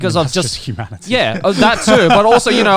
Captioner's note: laughing